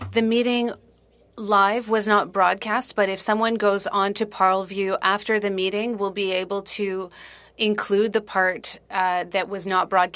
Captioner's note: speaking French